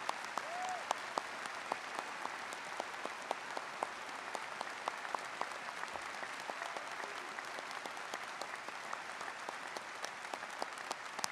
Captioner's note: applause